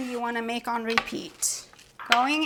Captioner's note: none